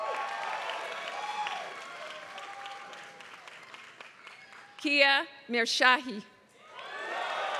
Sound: applause; applause

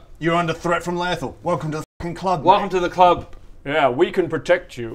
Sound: none

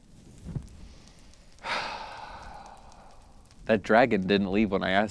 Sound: sighs

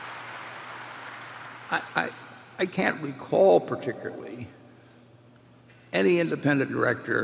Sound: applause

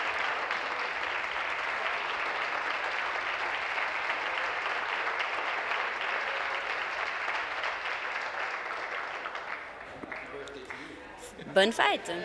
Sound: applause

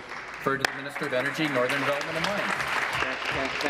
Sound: applause

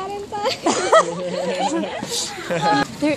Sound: laughs

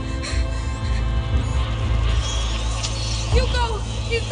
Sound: rats squeaking

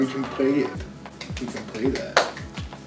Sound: claps

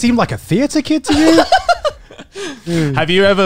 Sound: laughs

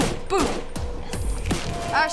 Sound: whispers

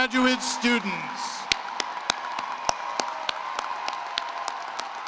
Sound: cheering and applause

